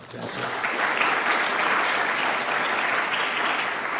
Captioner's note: clapping